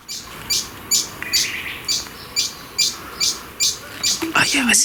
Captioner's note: bird sounds